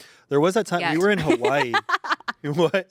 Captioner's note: laughs